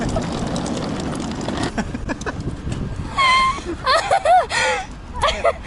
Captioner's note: speaks faintly; laughing